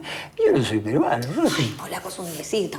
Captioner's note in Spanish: Riendo